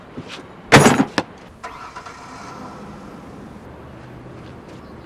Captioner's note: car starts